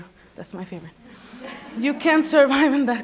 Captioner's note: laughs